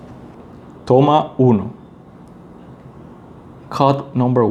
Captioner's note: speaking in Spanish